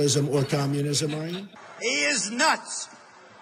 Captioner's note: laughing